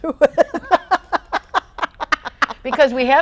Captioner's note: laughs